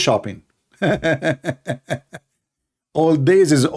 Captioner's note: Ketawa